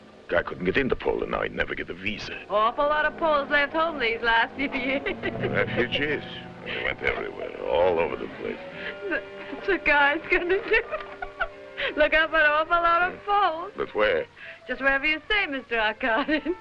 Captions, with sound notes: - Guy couldn't get into Poland now. He'd never get a visa. - Awful lot of Poles left home these last few years. (Mily laughing) - Refugees. They went everywhere, all over the place. - That-that's what Guy's gonna do. (laughing) Look up an awful lot of Poles. - But where? - Just wherever you say, Mr. Arkadin.